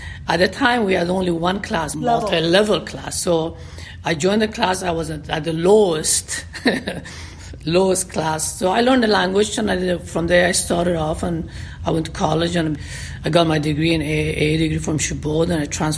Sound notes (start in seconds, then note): 6.3 laughter